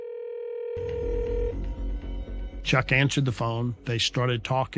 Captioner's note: calling tone ringing